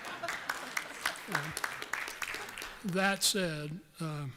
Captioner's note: applause